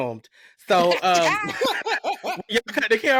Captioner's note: laughter